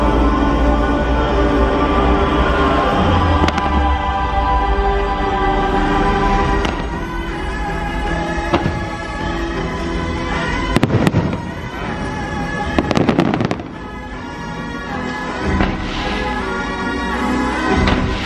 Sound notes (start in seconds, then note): 6.6 choir vocalising; 6.6 fireworks popping